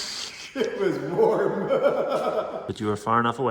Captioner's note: laughs